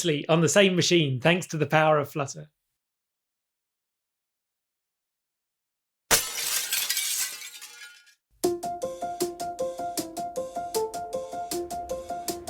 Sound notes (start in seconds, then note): 6.1 glass shattering; 8.4 upbeat music